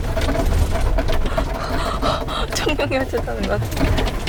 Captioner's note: shortness of breath